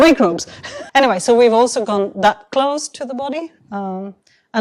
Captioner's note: chuckles